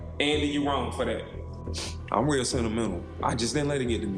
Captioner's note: sniffles